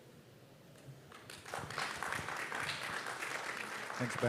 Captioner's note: applause